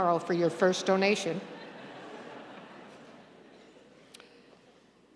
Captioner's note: audience laughing